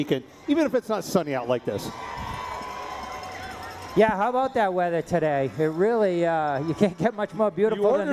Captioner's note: cheering